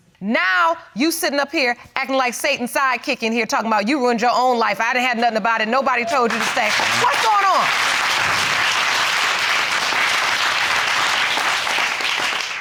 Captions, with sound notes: Now, you sitting up here actin' like Satan's sidekick in here, talkin' about, "You ruined your own life. "I had nothin' about it. Nobody told you to stay." What's goin' on? (AUDIENCE CLAPPING)